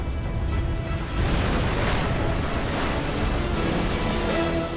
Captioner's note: explosion